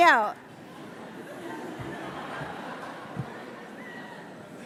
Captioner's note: laughter